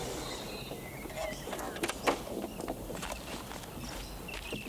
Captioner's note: birds chirping